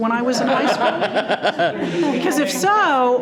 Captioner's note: all laughing